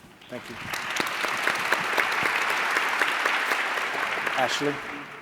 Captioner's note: applause